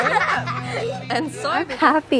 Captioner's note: girls laughing